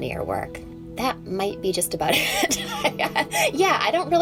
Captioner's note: laughs